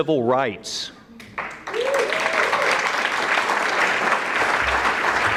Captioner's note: audience clapping